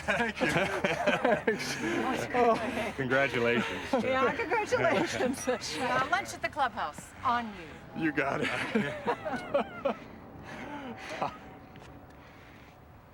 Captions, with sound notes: Thank you. Thanks. Congratulations. Congratulations. Lunch at the clubhouse on you. You got it. (LAUGHTER)